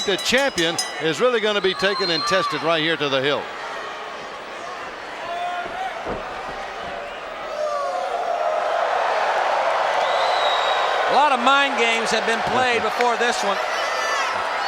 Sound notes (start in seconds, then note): 0.0 bell rings; 8.4 crowd woos